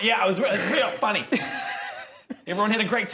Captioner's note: cold-hearted laughs